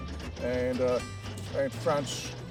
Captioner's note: train rattling